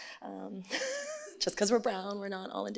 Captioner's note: laughs